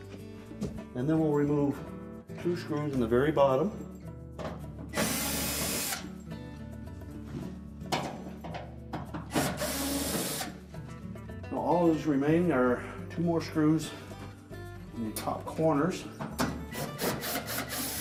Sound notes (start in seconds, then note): 4.9 electric screwdriver; 16.8 electric screwdriver